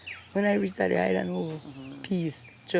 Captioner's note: foreign spoken audio